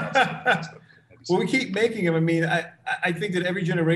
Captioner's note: laughs